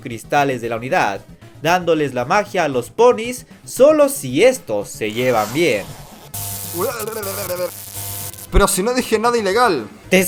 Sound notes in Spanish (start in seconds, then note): 8.5 Choque eléctrico; 8.5 Sonido de dolor